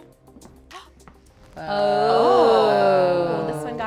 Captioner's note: group admiring